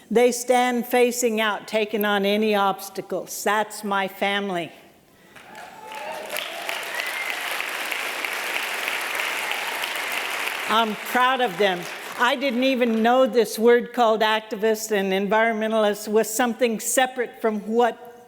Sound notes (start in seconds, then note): 5.3 applause